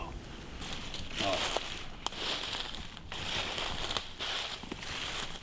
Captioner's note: leaves crunching